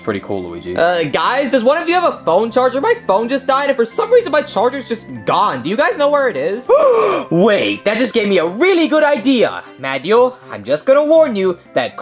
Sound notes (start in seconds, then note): 6.7 gasps